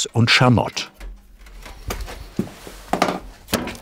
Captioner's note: quiet clanking